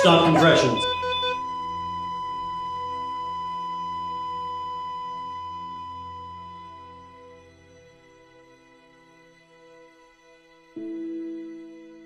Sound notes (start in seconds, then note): 0.0 rapid beeping stops, flat line beep